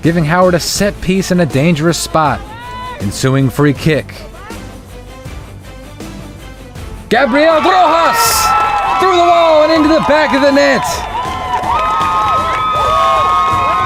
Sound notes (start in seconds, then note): 4.1 crowd cheers